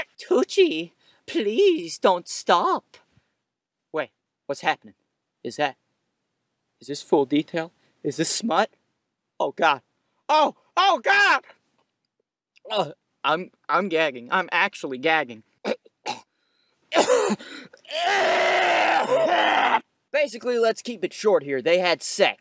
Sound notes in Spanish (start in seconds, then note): 16.9 Vómitos fingidos